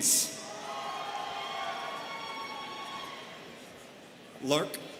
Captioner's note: students cheering